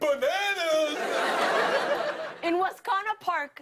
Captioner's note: laughter